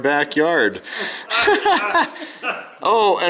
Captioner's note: laughing